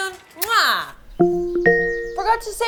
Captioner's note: device chimes